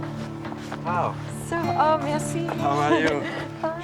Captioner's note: French spoken audio